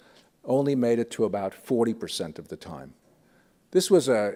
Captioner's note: none